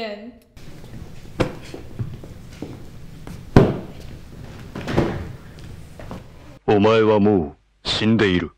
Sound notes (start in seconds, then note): 4.7 thud; 4.8 smack; 6.9 foreign language